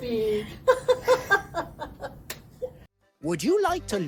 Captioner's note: laughs